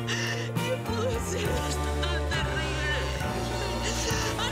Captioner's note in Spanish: sollozos